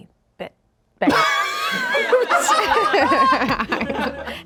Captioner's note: everyone laughs